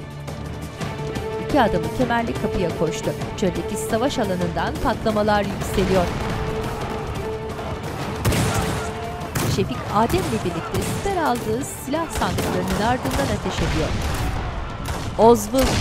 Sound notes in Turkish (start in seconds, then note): 0.1 Müzik - Hareketli; 5.9 Patlama sesi; 8.2 Silah sesleri; 13.6 Patlama sesi; 15.4 Silah sesleri